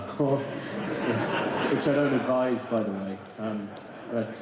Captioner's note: laughter